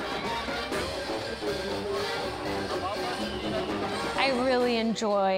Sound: sounds of the fair

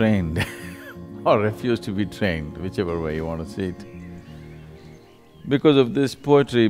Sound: laughs

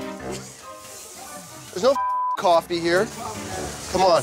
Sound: beep

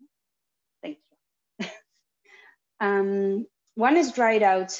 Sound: chuckles

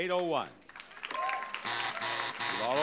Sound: bell dings; buzzer buzzing

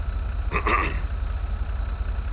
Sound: clears throat

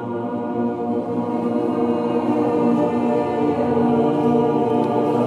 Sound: voices resonating

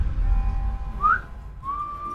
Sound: whistles

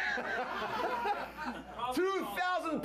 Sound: laughter

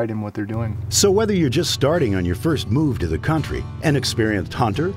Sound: ATV engine rumbling, acoustic music plays

